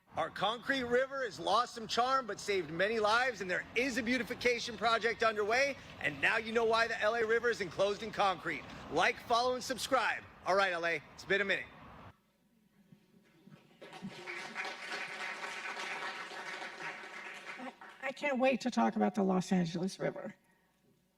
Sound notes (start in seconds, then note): 13.6 audience applauding